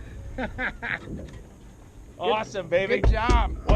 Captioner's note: laughing